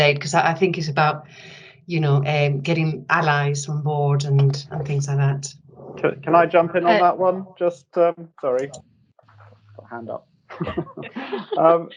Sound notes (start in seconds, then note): 10.5 panellists laughing